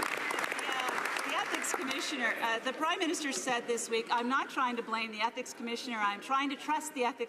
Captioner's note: some Applause